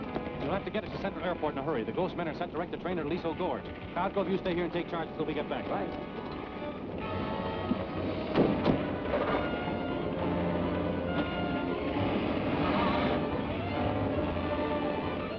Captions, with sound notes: You'll have to get it to Central Airport in a hurry. The Ghost's men are sent direct to train at Aliso Gorge. Cosgrove, you stay here and take charge until we get back. - All right. (dramatic orchestral music) (engine rumbles) (tires squeal)